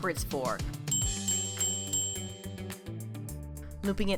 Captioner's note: bell ringing